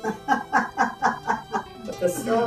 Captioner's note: laughter